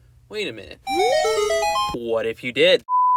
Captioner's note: Legend of Zelda sound effect